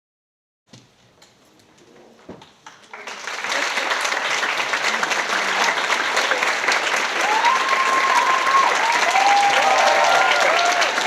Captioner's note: applause